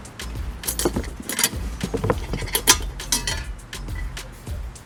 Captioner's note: quiet thudding